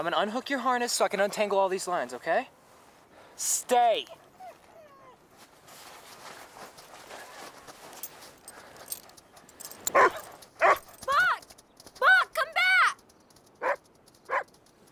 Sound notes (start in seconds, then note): 4.5 Buck whining; 9.9 Buck barking